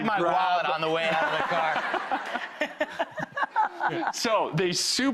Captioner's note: all laugh